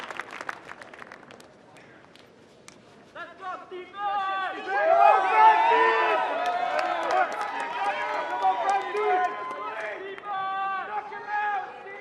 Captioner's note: cheers and applause